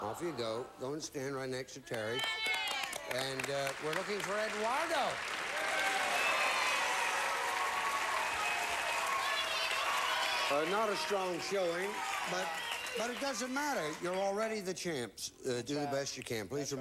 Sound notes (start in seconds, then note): 2.5 audience applauding; 4.3 audience cheering